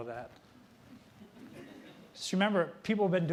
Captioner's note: audience laughing